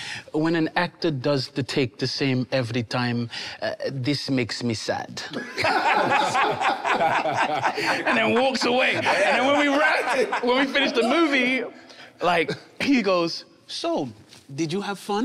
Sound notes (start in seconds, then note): 5.3 group laughs